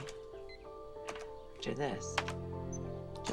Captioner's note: computer beeps